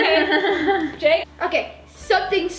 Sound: chuckles

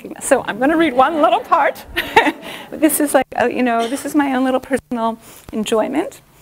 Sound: chuckle

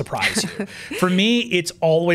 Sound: laughs

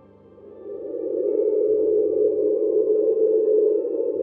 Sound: device humming

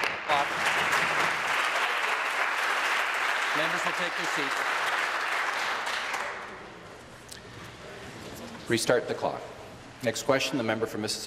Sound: applause

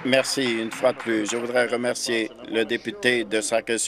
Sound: applause

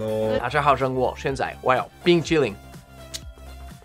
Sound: speaks in foreign language

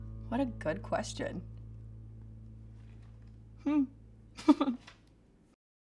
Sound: laughs

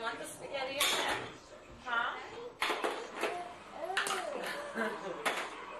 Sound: subdued laughter from audience

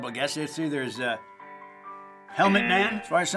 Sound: buzzer

